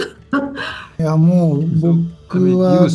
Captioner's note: speaking Japanese